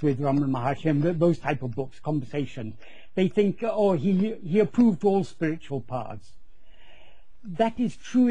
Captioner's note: conversation